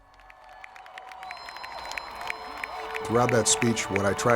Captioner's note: audience applauding